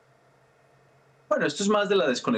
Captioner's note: HABLA EN INGLéS